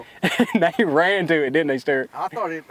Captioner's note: laughing